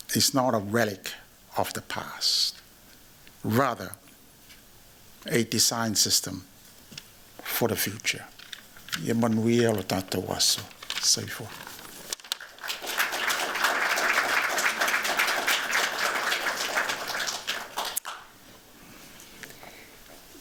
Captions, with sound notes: is not a relic of the past, rather, a design system for the future. [NON-ENGLISH] [APPLAUSE]